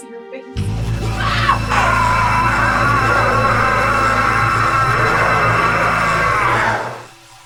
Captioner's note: entity screams; Kathryn screams